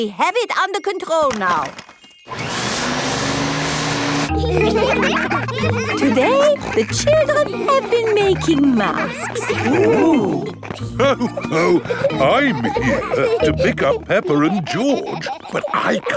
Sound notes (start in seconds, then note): 2.2 whirring; 4.9 all laughing; 11.3 laughs